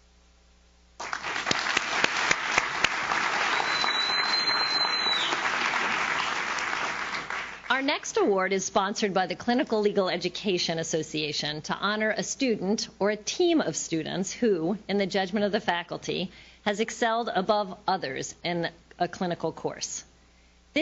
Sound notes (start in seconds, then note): 1.0 audience claps